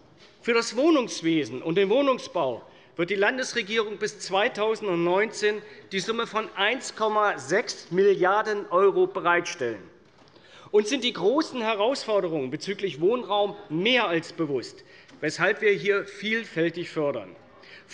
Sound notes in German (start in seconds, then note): none